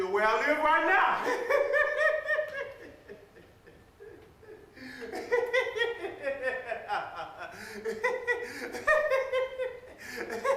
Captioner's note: laughing